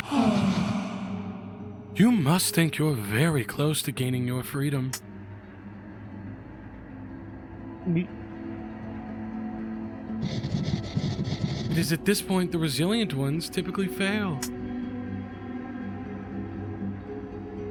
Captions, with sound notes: (the Duchess sighs) "You must think you're very close to gaining your freedom. (gulps) It is at this point the resilient ones typically fail."